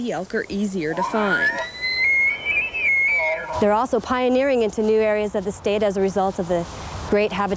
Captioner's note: nats squeal